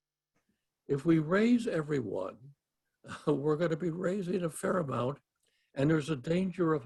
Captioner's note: laugh